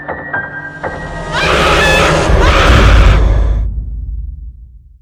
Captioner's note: terrifying Screaming